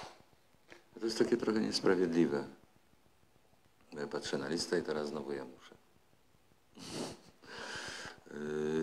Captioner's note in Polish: śmiech